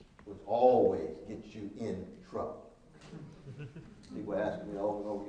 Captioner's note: laughing